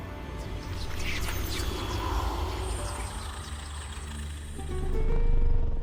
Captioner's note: ominous whispering; wind rushing; mysterious string music